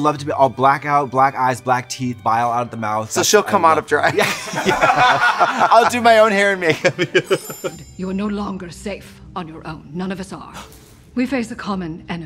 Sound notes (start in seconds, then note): 4.1 laughing; 6.6 twinkling